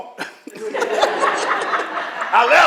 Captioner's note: laughter